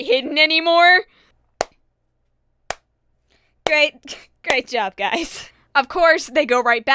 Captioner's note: slow clap